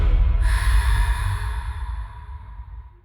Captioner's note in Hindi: गहरी सांस लेने की आवाज़